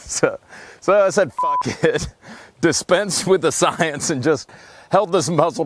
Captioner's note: laughing